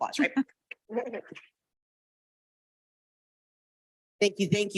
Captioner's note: participant laughing